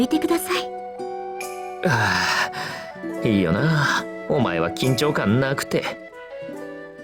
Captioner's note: sigh